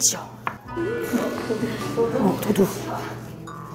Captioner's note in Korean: 웅성 웅성